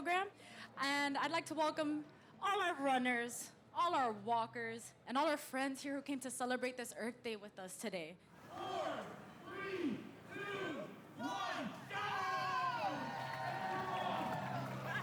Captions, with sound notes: all our walkers, and all our friends here who came to celebrate this Earth Day with us today. -Four, three, two, one! Go! -[ Cheers and applause ] -They're off! -Run for the future! Run, run, run!